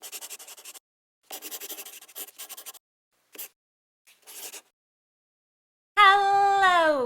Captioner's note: the sound of a pen scratching